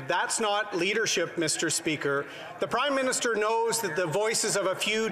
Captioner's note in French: voix de l'interprète